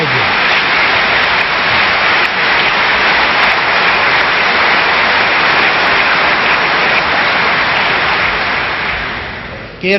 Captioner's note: applause